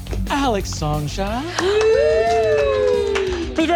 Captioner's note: players cheering